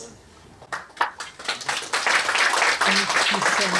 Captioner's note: applause